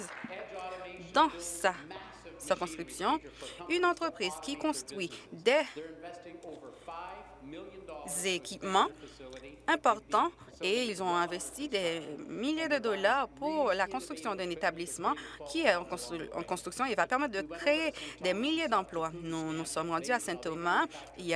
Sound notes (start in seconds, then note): 0.0 applause